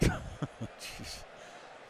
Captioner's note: laughter